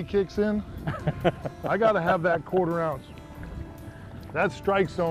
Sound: laughter

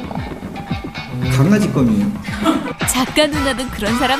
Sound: dog chew

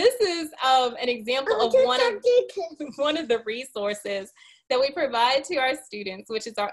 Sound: laughing

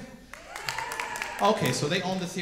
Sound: audience cheering

